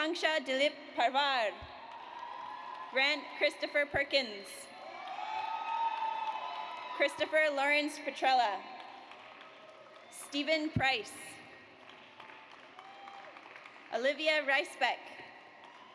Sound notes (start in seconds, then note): 1.7 audience applauds; 4.8 audience cheers; 8.6 audience applauds; 11.7 audience applauds